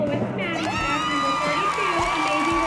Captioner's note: cheering and applause